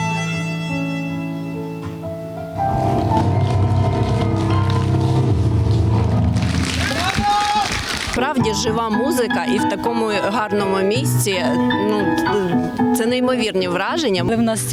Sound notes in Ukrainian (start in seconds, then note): 0.0 Звуки гри на роялі; 3.2 Аплодисменти